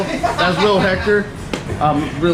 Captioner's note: laughing